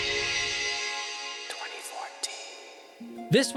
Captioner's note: mysterious whisper